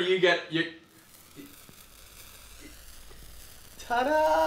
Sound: silence

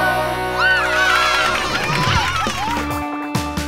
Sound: cheering

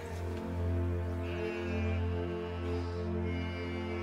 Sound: sheep baas

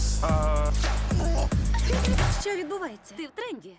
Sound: retches; giggles

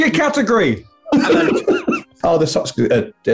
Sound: laughing

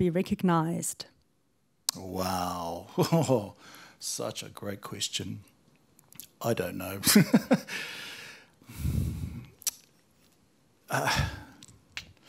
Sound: laughs

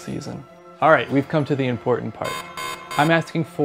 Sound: buzzer alarm

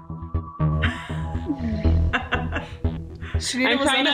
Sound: laughs

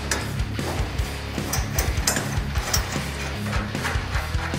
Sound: metal clinking

